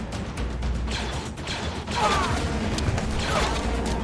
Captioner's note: blaster fires